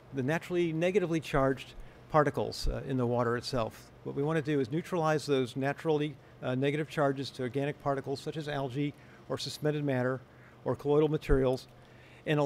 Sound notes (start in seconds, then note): none